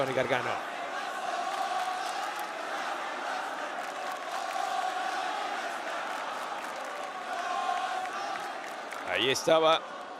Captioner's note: applause